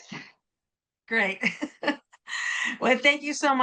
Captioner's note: chuckling